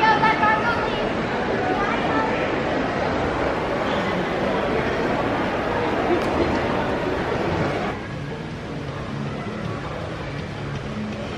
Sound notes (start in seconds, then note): 3.8 guests chattering indistinctly; 7.9 gentle upbeat music